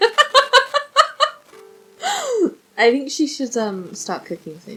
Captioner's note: giggles